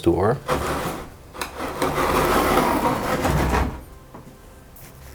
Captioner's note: opening door